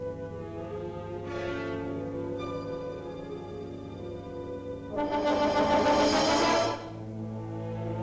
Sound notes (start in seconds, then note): 0.0 ominous music; 4.8 dramatic music; 5.0 tank hisses; 7.0 ominous music